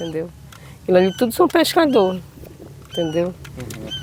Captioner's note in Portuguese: som de pássaros